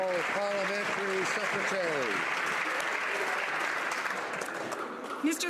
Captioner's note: some Applause